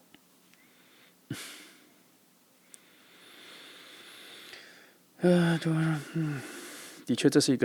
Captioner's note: breathing